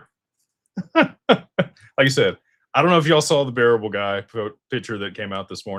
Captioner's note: laughter